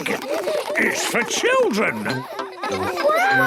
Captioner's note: children laughing